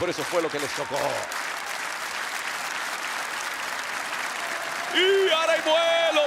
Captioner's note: applause